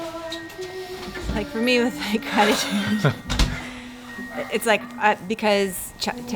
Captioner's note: laughs